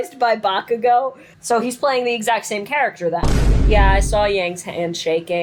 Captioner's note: boom